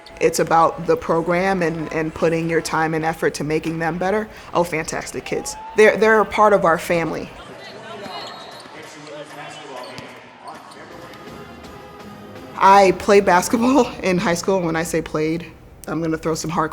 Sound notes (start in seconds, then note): 11.0 exciting band music; 11.0 people exclaiming